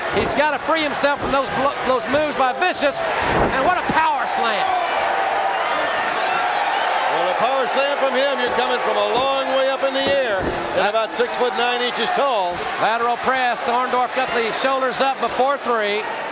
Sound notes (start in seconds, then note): 5.2 audience cheering